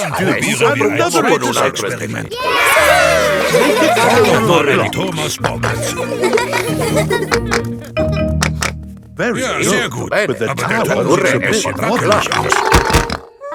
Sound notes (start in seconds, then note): 3.4 laughing; 6.0 children laughing